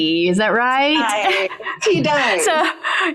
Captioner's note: laughs